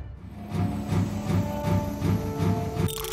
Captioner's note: steam-powered warp engines chuffing